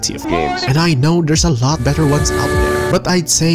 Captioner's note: haha